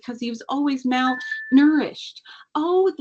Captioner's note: cellphone chimes